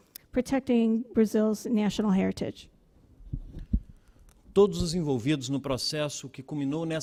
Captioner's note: speaking Portugese